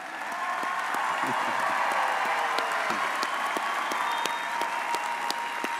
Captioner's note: audience cheering and applauding